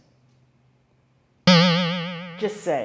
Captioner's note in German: boing